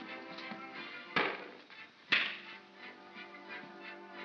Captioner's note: soft whimsical music; pop & crack; soft whimsical music